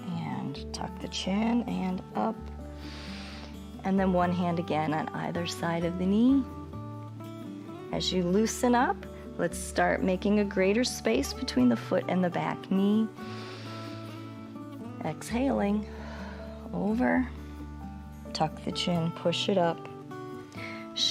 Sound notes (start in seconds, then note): 2.7 inhales; 13.2 inhales; 15.8 exhales